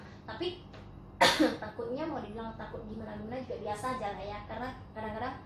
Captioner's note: cough